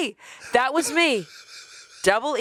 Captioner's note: chuckling